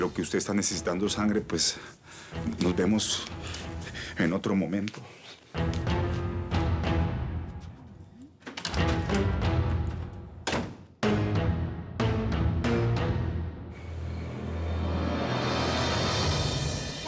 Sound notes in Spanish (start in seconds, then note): 10.6 Sonido al salir